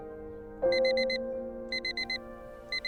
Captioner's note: alarm beeping